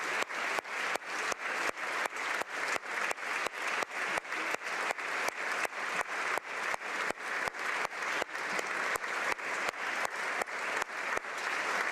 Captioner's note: applause